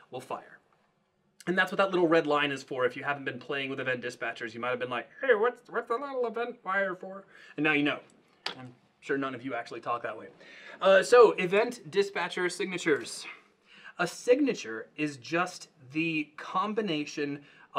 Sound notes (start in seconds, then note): 5.7 high pitched voice